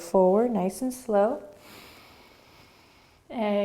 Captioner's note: inhaling